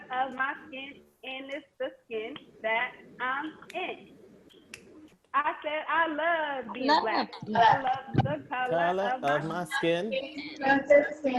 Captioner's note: participants join in chanting